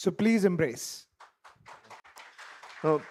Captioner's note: applause